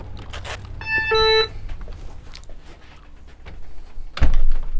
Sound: door beeps

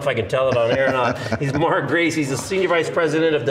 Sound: laughs

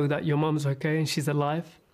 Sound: speaking alternate language

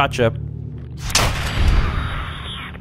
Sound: blam!

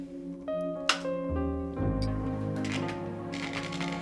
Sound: lights buzz

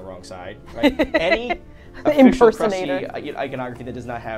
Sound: laughs

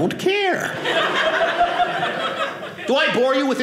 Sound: audience laughing

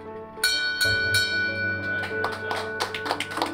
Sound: bell chimes gently; loud applause

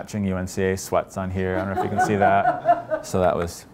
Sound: laughter

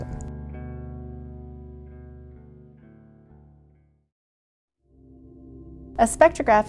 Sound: silence

